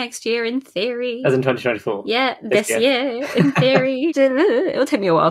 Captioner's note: sing-song; laughs